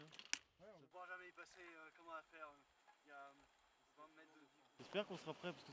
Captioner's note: indistinct chatter